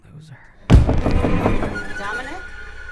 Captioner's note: thump on the door